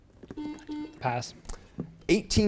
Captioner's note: beep